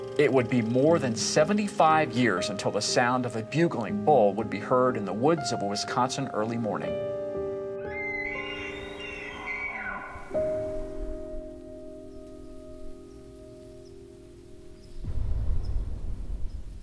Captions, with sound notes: It would be more than 75 years until the sound of a bugling bull would be heard in the woods of Wisconsin early morning. (bugling sound)